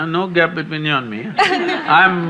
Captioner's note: laughter